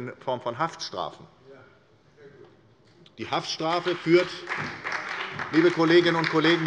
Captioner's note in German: Beifall bei der SPD und der LINKEN